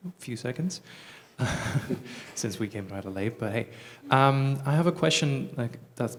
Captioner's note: chuckling